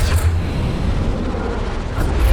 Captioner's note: wind blows